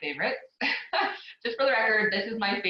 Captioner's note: laughs